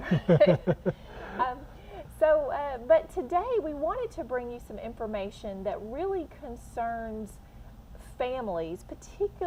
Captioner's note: chuckle